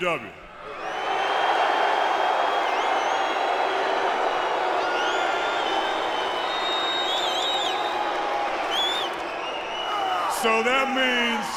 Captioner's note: crowd cheering